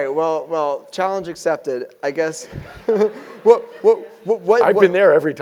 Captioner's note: laugh